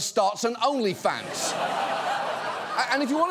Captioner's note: studio audience laughs